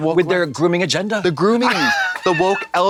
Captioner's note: Katya hisses and claps